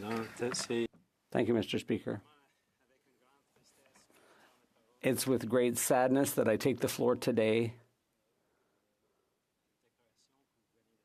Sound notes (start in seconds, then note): 3.1 speaking French